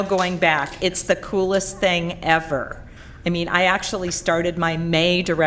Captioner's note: applause